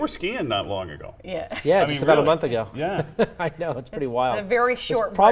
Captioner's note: laughter